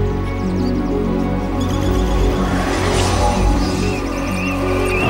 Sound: air whirs; aggressive metal music

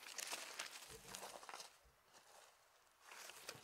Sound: leaves rustling

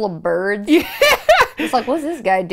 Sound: laughs

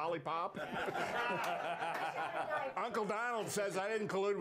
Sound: laughter

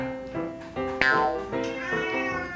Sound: quacks

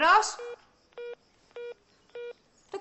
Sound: hungup tone

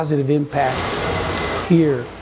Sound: sanding

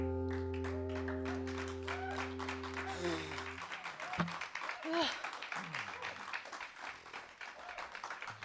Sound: applause

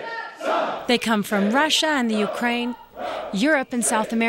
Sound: yells

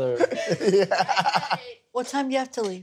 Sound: Ronnie laughs

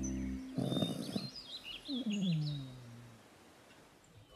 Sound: dog snoring

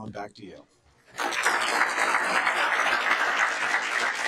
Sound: applause

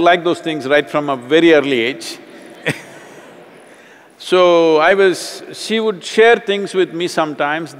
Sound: laughs

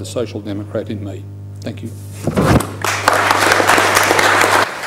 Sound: applause

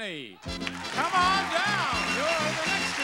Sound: applause

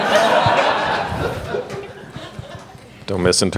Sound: audience laughing

